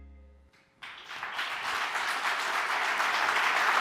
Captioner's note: applause